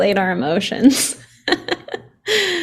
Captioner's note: laughs